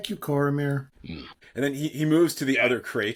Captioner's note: laughs